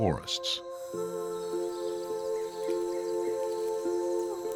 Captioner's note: birds chirping